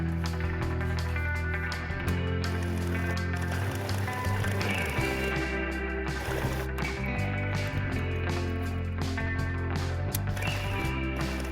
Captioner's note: sewing machine noise